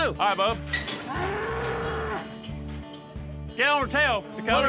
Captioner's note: mooing